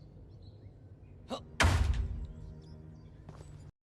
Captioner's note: door breaking sound